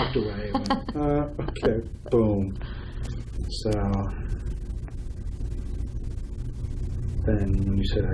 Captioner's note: laughs